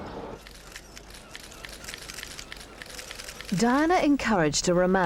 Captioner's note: cameras shuttering